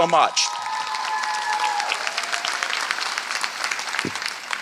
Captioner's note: applause